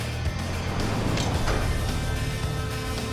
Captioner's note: arrow strikes